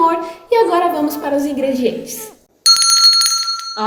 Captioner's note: bell rings